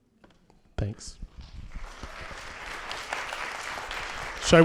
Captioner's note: applause